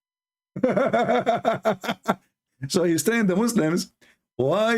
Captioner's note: Ketawa